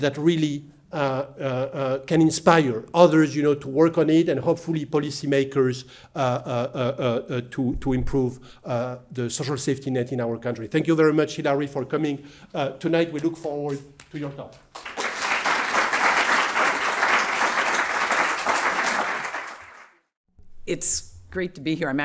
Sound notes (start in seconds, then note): 14.6 applause